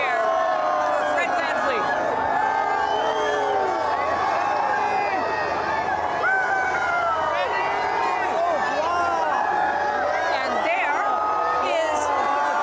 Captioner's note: cheering